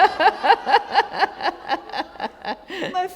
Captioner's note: laughter